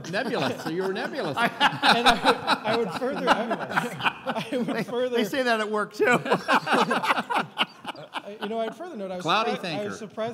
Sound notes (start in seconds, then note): 2.7 laughing; 6.0 laughing